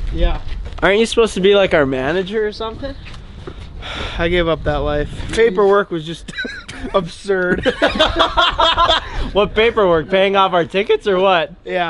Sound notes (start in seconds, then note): 3.8 sighs; 7.4 laughing; 7.4 laughs